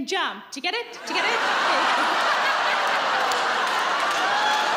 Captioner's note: laughing